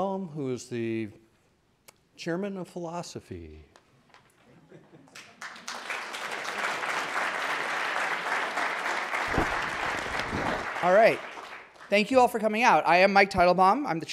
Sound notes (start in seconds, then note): 5.1 audience applauding